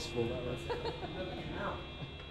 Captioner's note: laugh